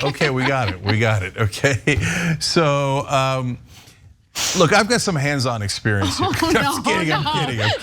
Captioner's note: laugh; laugh